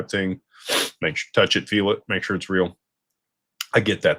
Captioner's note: snorts